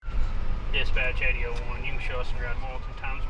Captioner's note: radio Chatter